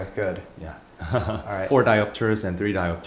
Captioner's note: laugh